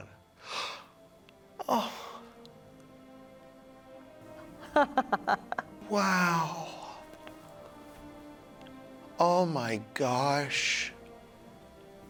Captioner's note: laughing